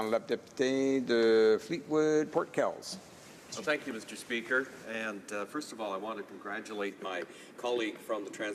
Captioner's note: speaking French